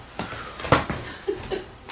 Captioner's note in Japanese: の尻を叩く音